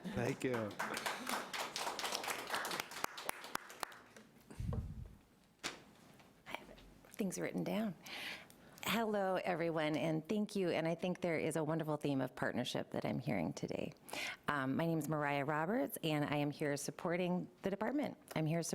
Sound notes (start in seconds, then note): 0.3 clapping